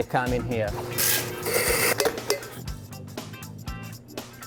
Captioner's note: machine grinds